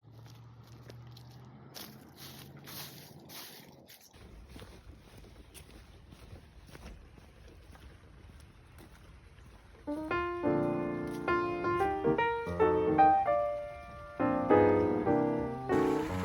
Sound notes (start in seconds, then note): 1.6 crunching leaves; 9.8 soft music